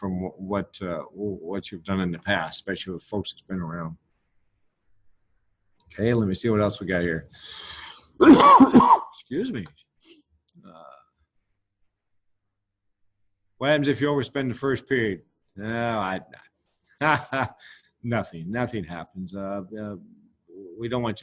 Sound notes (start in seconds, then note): 8.2 coughs; 17.1 laughs